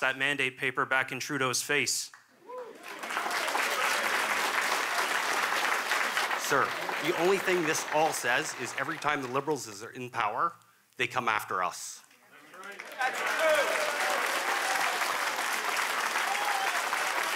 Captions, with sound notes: OFFICER YOU SHOULD KNOW BETTER AND SHOULD HAVE TOSSED THAT MANDATE PAPER BACK IN TRUDEAU'S FACE. [Applause] >> SIR, THE ONLY THING THAT THIS SAYS IS THAT EVERY TIME THAT THE LIBERALS ARE IN POWER, THEY COME